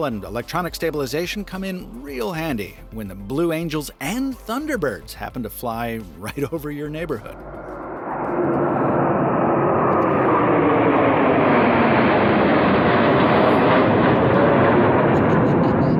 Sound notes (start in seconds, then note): 8.1 jets thundering